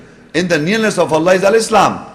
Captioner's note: Arabic